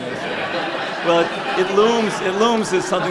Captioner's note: laughing